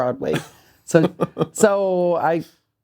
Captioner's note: laughing